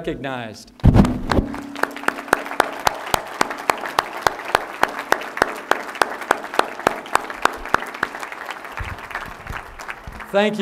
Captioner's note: applause